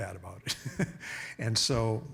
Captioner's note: chuckling